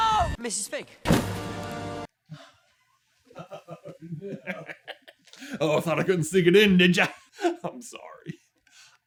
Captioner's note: laughing wickedly